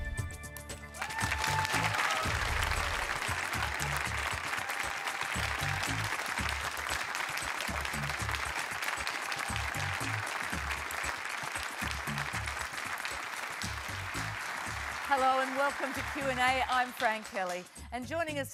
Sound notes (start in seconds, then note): 1.6 applause